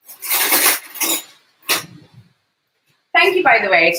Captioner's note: cutlery clattering